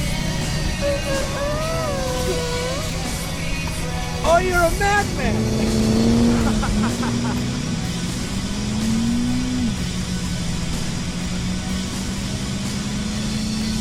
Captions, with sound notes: Ooh, ooh, ooh. Oh, you're a madman! [car revs] [Marvin laughs]